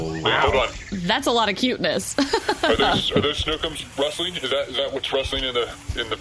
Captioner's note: laughing